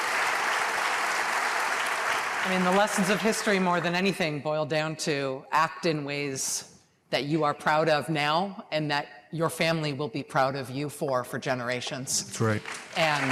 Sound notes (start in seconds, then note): 0.0 applause